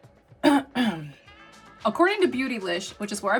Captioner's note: clears throat